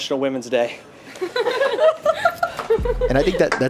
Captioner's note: people laughing